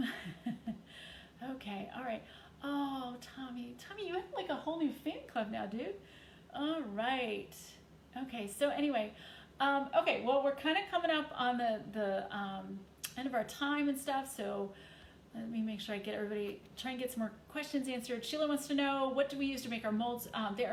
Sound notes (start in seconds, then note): 0.0 chuckling softly